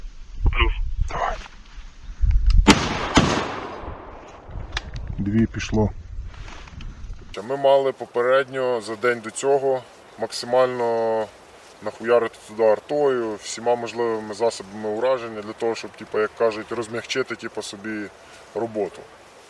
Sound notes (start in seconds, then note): 2.6 grenade launcher firing sounds